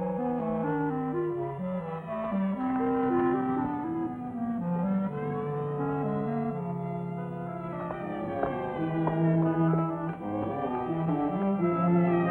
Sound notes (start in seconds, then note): 1.6 ominous music; 1.6 sirens wailing